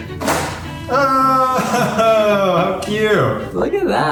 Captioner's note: joyfully celebrates